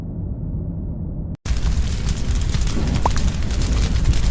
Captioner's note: fire sfx